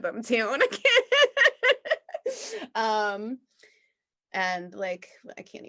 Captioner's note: laughs